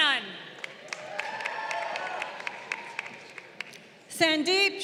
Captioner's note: crowd cheering